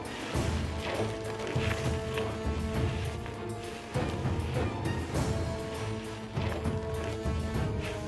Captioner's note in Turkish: Sürükleme sesleri